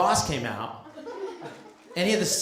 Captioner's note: laughter